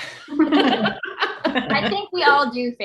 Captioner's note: group laughing